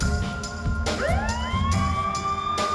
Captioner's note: ambulance siren